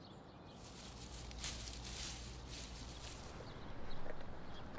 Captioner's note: leaves rustling; footsteps rustling